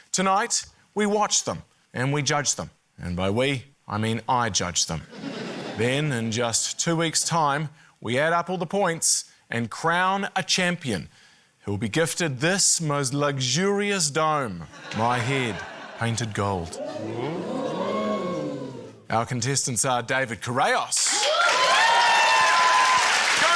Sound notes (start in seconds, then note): 16.5 all exclaim; 21.0 cheering, applause